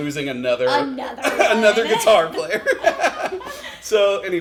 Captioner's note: laughs